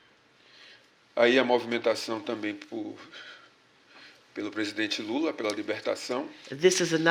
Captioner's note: speaking portuguese